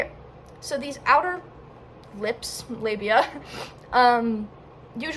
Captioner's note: laughs